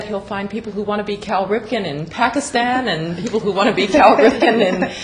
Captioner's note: laughter